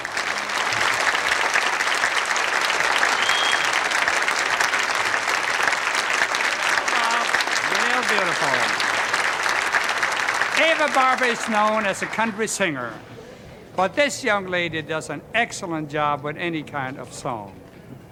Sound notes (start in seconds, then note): 3.3 applause